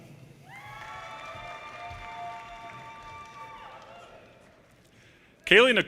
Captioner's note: audience cheers and applause